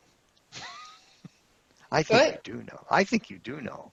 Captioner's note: laughter